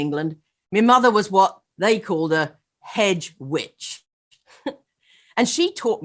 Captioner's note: laughs